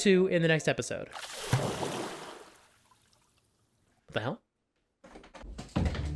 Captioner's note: splash